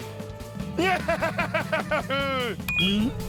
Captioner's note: laughing